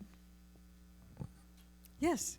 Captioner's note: mic humming